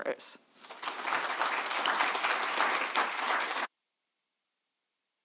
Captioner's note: audience applauds